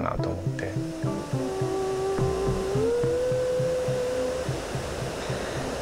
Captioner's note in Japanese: のハミング